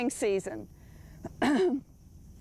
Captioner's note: cough